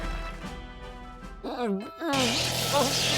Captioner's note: grumbles